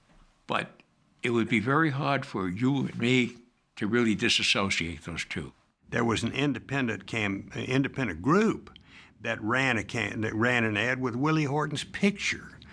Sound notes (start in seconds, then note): none